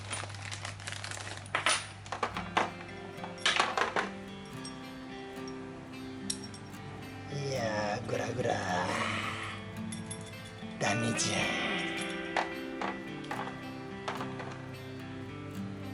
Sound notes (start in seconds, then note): 10.6 laughs